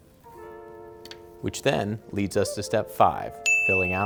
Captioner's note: dinging